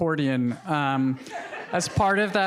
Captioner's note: audience laughing